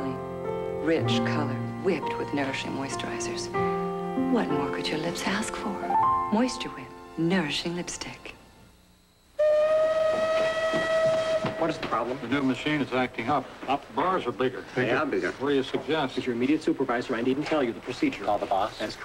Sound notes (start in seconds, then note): 9.3 factory steam whistle